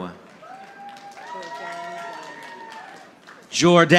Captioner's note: audience applauding